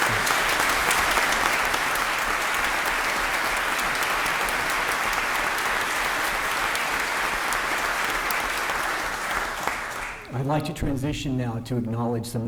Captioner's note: applause